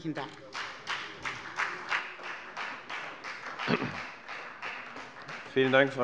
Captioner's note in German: Beifall bei der FDP und bei Abgeordneten der CDU